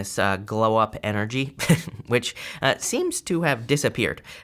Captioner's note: chuckling